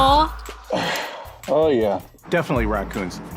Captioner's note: sighs